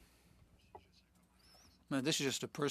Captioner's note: speaking French